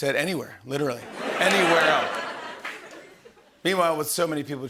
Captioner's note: laughter